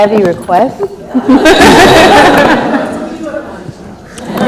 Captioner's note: laughs